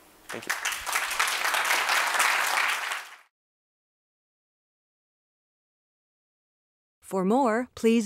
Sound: applause

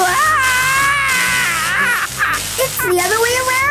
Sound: electrical shocks

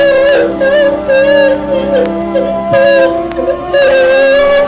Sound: continues crying

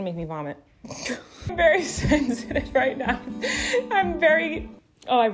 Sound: laughs

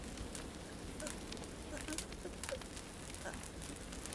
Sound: fire crackling

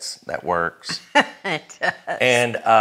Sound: laughs

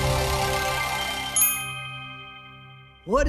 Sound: dinging

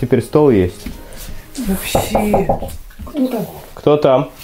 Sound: knocking

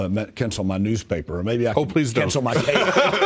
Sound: laughter

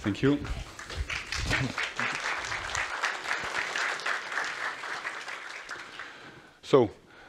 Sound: applause

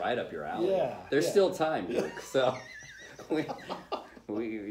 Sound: laughing

